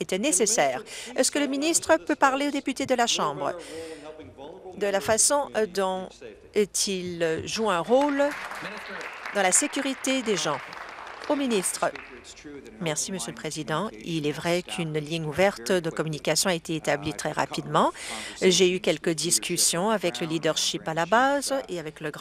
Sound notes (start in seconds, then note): 10.6 applause